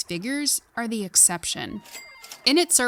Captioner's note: cash register chiming